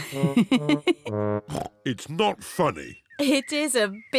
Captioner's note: giggles